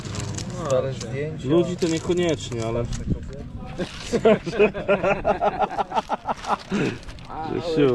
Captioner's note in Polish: śmiech